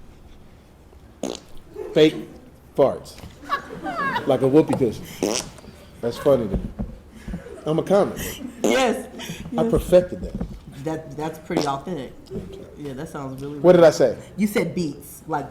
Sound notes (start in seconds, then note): 3.9 audience laughing; 5.0 farts